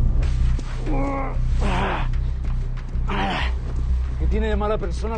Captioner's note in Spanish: Quejidos